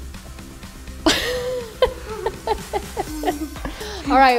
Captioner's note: festive music continues; laughing